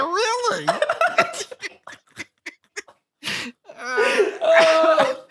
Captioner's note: laughing